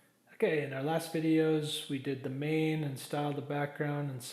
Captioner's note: voiceover